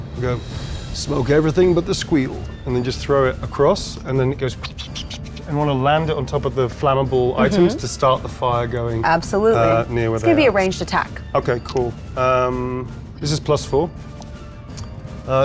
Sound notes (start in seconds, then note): 4.6 puffs